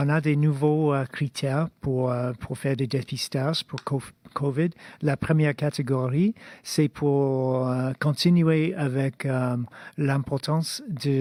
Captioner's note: speaking in French